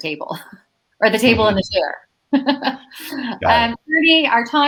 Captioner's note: laughs